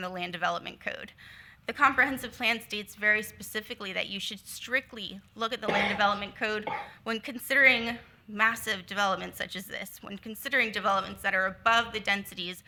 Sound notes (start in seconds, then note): 5.6 attendee coughing